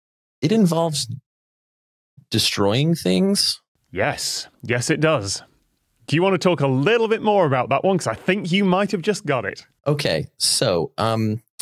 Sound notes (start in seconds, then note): none